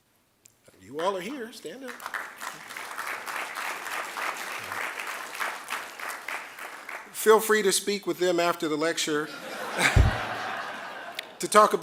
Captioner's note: applause